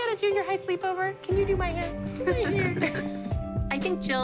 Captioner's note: giggling